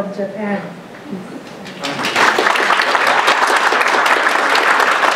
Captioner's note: audience applauding